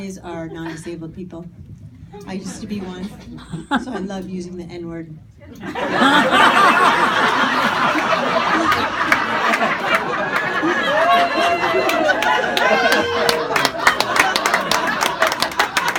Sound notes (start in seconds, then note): 5.4 audience cheering